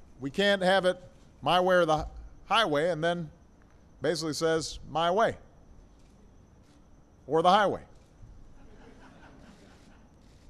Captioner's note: laughter